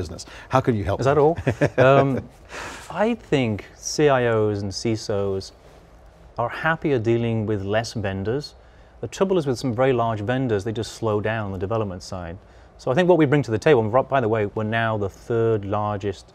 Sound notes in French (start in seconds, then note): 1.4 rire